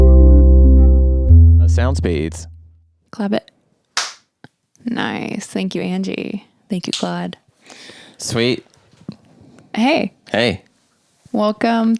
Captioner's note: clap